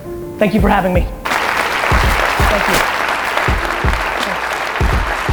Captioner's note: audience applause